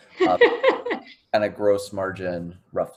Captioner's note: laughs